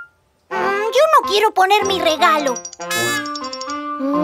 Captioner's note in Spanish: Bocina